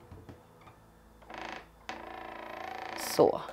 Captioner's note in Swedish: Knarrande ljud